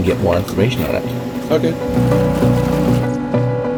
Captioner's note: water trickling; ominous instrumental music